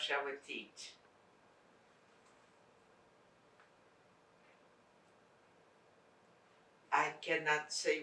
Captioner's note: pauses 6 seconds